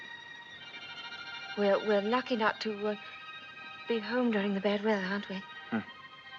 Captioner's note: stuttering